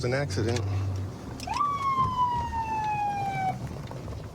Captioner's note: sirens blaring